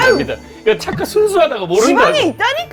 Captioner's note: unending bantering